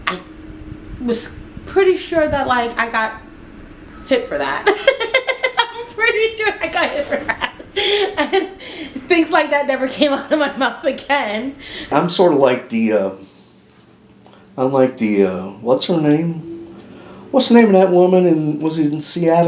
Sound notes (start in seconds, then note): 4.6 laughter